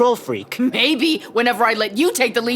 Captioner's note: none